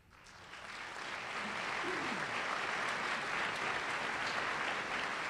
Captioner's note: applause